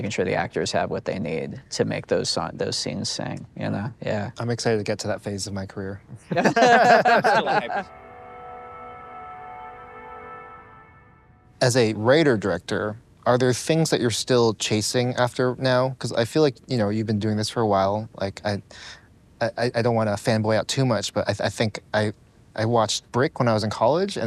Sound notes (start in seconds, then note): 6.2 group laughing; 8.3 upbeat music